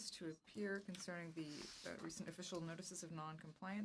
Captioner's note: speaking French